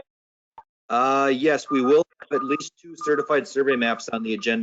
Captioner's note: microphone breaks up